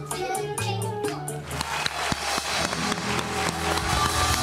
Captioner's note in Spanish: Suenan aplausos